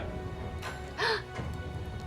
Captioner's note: gasps